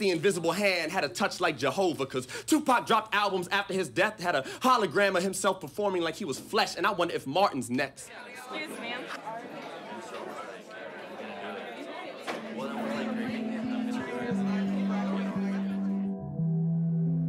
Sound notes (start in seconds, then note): 6.4 crowd chattering; 12.3 reflective music